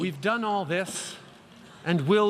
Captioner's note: speaking English